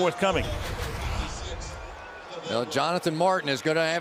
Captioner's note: pa announcement